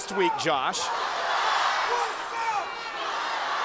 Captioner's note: crowd cheering